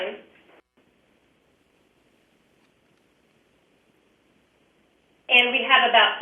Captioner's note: pause